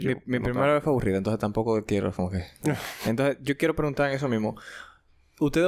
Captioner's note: laughs